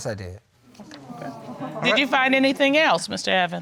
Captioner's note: audience awing